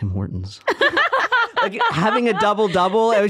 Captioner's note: laughing